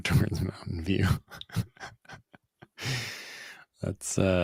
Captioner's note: laughter